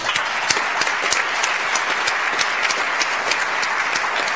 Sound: audience applauds

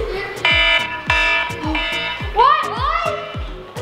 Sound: alarm rings

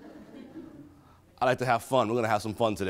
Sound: attendees laughing

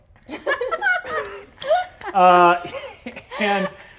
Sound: cast laughing

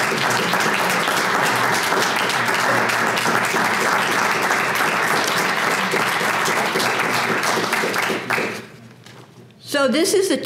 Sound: applause

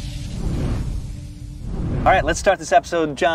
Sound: logo whooshing

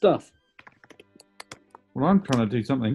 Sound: typing on keyboard

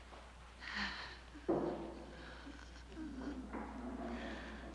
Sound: moaning

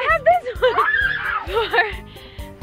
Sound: screaming

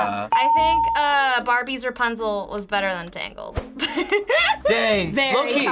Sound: laughs

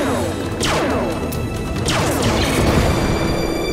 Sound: explosion

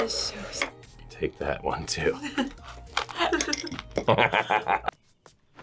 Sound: both laugh

